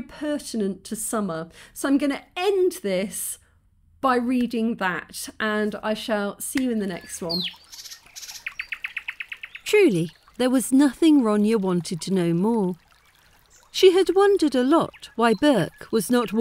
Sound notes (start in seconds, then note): 7.4 bird song; 7.4 brook burbling